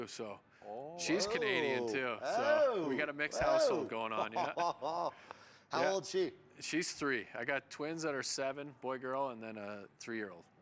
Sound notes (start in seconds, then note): 3.2 laughs